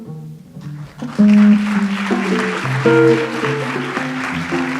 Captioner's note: audience applauds